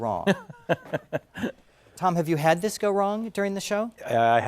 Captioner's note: laugh